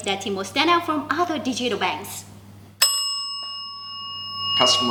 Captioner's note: rings the bell